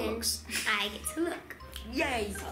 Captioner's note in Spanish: Dedos SNAP